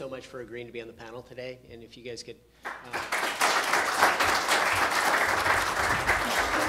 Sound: applause

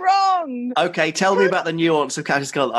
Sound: male Voice; laughing

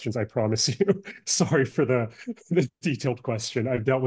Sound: laughs

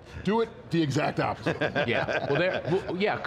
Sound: laughter

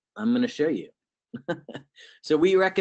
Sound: laughs

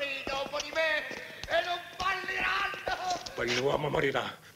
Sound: yelling and crying

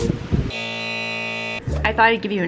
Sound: high voltage buzzing

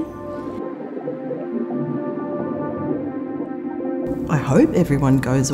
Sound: water bubbling

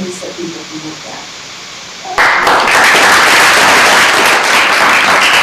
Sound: applause

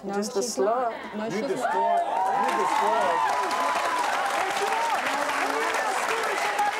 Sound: cheers and applause

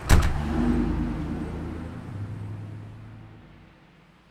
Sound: engine revving

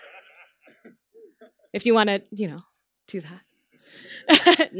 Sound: laughter

